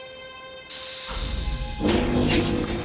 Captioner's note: hissing; electrical swooshing